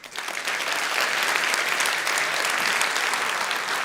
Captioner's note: audience applauds